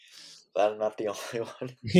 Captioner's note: laughs